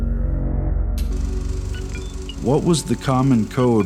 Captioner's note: projector clicks on. Music Surges